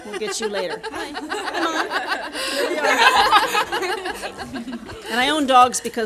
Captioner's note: audience laughing